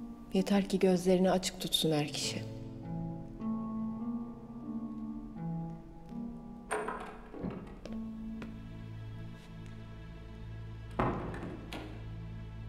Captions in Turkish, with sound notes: Yeter ki gözlerini açık tutsun er kişi. (Kapı açılma sesi) (Kapı kapanma sesi)